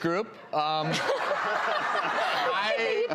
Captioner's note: audience laughs